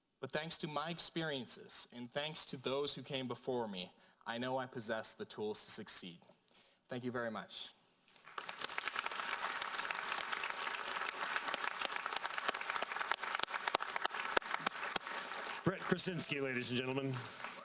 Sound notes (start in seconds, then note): 8.4 audience applauding